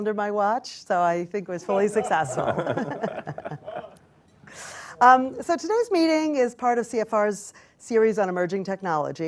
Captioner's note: laughter